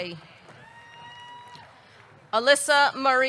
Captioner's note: audience clapping; audience cheering